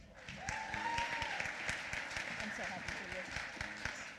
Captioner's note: applause